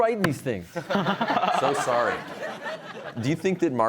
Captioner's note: all laughing